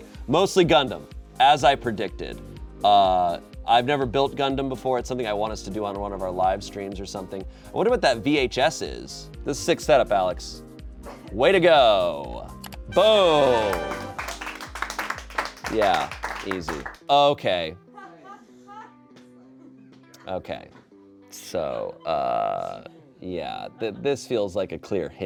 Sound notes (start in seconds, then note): 12.7 triumphant music; 13.2 audience applauding